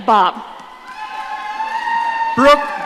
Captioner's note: audience cheering